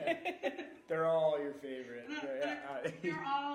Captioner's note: laughing; laughing